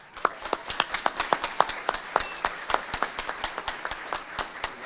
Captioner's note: audience applauding